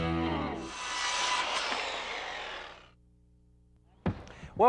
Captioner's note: saw blade hissing